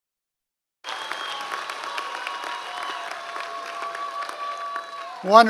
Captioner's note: audience applause